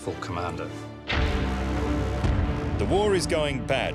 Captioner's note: ominous music; explosions